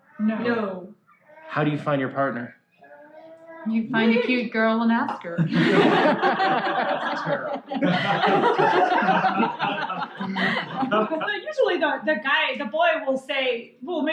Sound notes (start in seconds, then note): 5.3 laughter